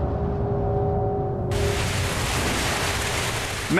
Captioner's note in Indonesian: suara gelombang